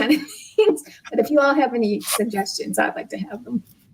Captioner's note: laughs